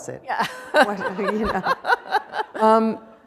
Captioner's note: laughter